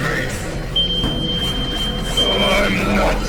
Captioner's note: broken smoke detector going off